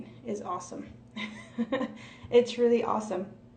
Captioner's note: laughs